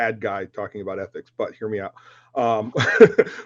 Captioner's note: laughs